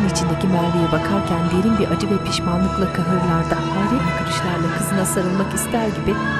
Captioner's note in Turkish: Ağlama sesi